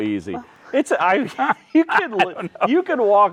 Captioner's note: both laughing